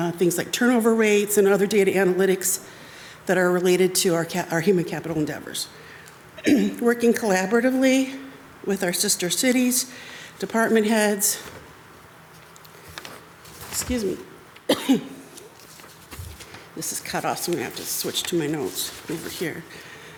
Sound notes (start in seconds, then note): 6.4 clears throat; 14.6 coughs